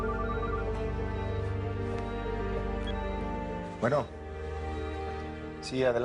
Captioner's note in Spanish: Suena el celular